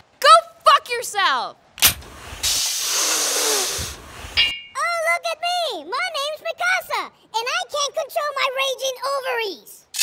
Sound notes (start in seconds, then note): 2.6 inhailing; 4.8 high pitched